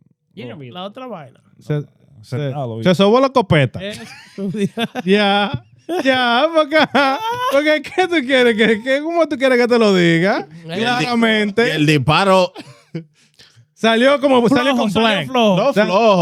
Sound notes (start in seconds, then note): 0.2 laughing; 0.2 speaking In Foreign Language; 3.9 laughing; 5.1 speaking In Foreign Language